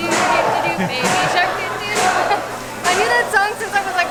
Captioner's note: laughter